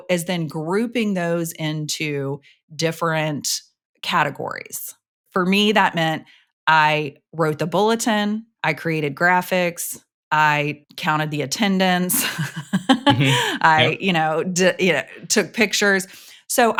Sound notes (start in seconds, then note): 12.2 laughs